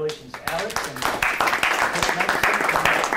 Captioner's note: board and audience applauding